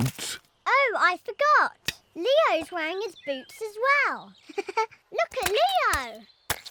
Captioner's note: giggles